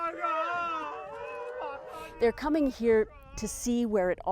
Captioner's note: crying